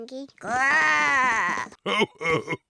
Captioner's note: oinks; growls; chuckles